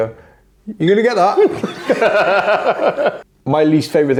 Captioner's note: group laughs